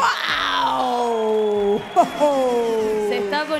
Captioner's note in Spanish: Aplausos